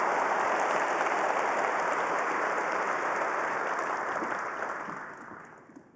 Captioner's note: applause